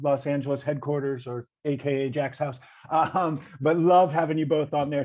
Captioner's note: chuckles